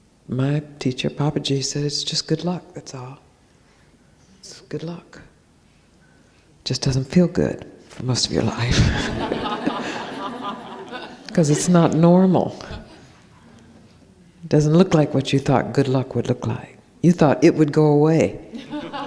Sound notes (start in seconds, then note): 8.8 laughs, laughter